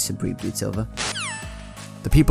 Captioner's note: phone disconnects